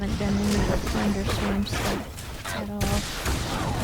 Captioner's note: tense music; gun shots; tense music; gun shots